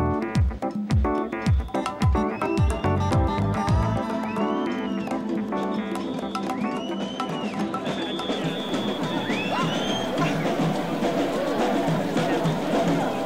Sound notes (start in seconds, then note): 5.0 whistling; 10.5 crowd talking